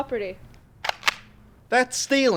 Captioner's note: cocks gun